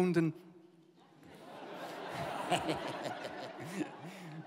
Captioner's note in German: Lachen